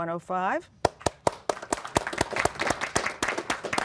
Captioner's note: applause